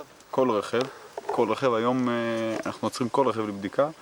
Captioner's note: Hebrew spoken audio